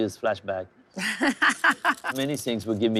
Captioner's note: laughing